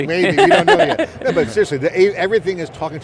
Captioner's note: laughing